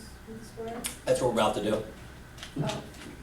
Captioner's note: voiceover